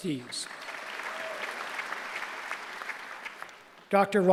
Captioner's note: applause